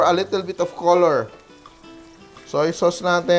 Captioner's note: sizzles